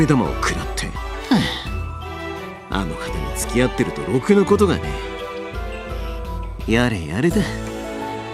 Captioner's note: sigh